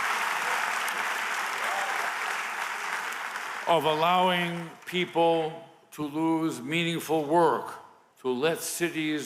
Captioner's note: applause